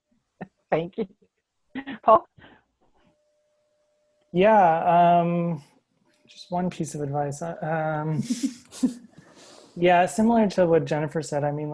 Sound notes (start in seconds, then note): 0.7 laughs; 8.2 laughs